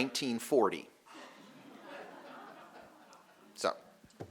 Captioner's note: audience laughing